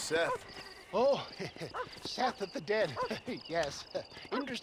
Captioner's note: laugh